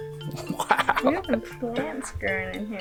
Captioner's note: laughs